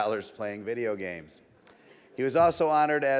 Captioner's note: audience laughs